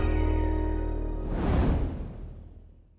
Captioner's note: whooshing